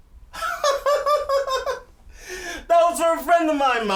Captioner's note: laughing